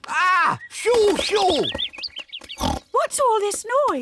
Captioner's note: birds tweet; oinks